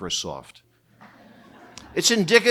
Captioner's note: audience laughing